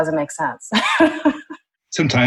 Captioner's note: laughter